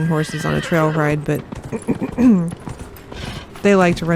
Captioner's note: clears throat